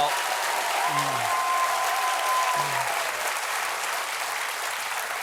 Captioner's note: applause